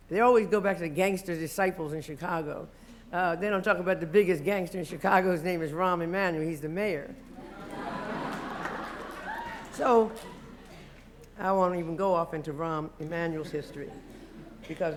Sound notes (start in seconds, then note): 7.2 laughter